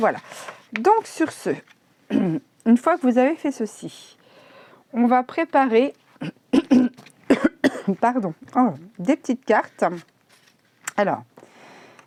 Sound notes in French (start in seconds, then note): 7.2 je tousse !